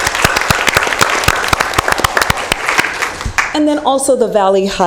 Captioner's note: applause